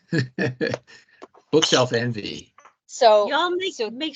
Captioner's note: laughing